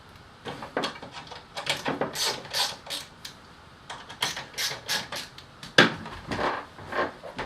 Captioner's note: ratcheting noises